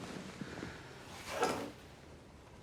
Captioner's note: whoosh